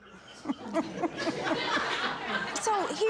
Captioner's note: chuckling